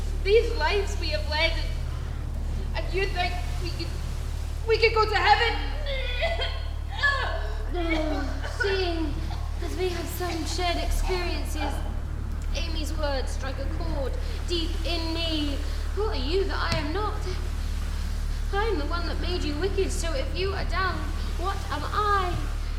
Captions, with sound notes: These lives we have led, and you think we could go to heaven? (retching) - Seeing as we have some shared experiences, Amy's words struck a chord deep in me. Who are you that I am not? I am the one that made you wicked. So if you are dung, what am I?